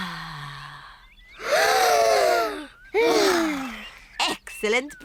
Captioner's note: breathes deeply; all breathe deeply